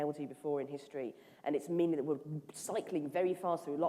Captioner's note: none